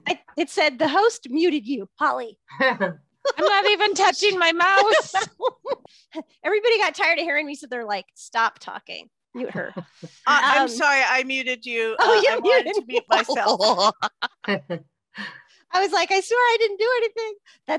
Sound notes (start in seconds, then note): 12.4 laughter